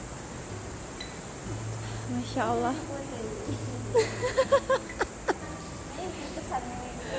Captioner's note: laughs